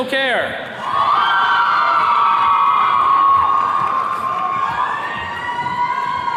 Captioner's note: attendees cheers and claps